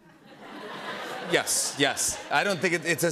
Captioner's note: laughter